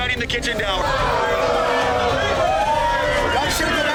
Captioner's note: booing